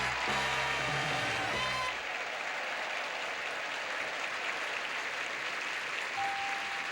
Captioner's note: audience applauding